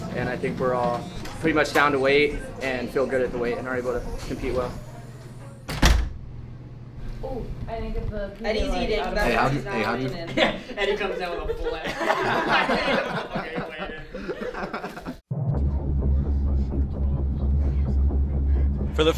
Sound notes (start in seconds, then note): 5.6 door slams; 8.6 group chattering; 12.5 group laughing; 15.3 heavy bass music